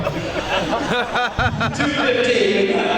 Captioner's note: laughter